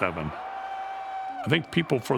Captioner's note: crowd cheering